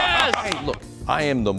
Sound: reporters applauding

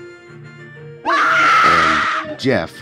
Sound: Vin screaming

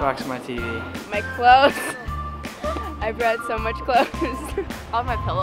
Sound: laughing

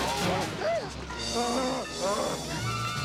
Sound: both Groaning; gasps; screaming

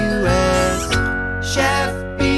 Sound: kiss sound

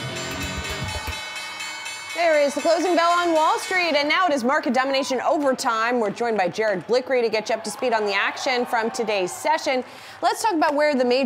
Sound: closing bell

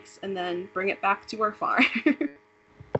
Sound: laughing

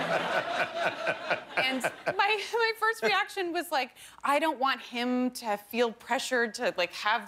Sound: laughter

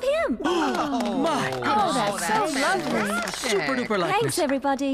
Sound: shouts of Approval

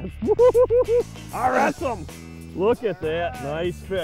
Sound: laughs

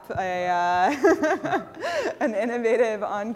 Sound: laughter

